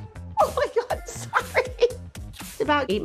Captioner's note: laughs